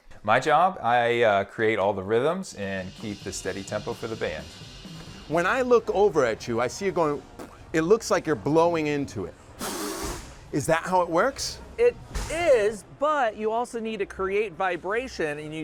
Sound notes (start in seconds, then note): 9.6 bearded host blows